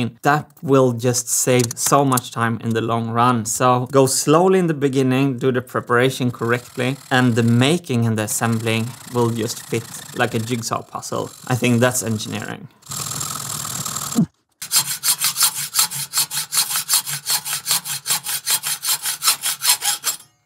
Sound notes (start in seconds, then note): 12.7 high-speed sawing; 14.6 normal sawing